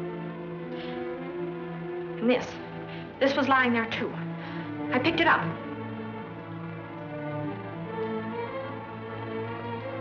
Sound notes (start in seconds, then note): none